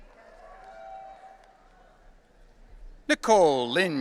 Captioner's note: audience cheering